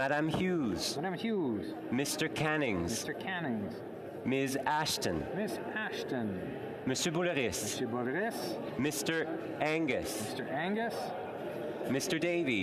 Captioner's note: calling of recorded vote